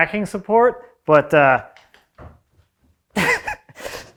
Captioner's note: laughs